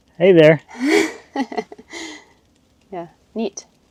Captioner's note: chuckling